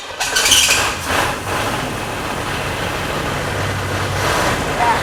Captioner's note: engine turning over